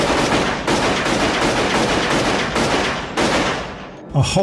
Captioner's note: sound of shooting